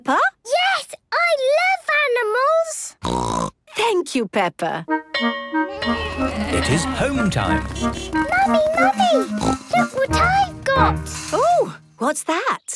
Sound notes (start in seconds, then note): 3.0 snorting; 5.1 bell clanging; 5.6 honking